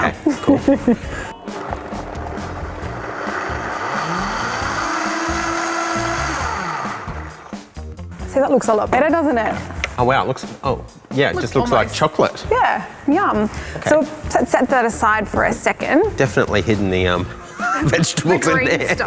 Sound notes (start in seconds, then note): 0.2 laughs; 1.6 whirring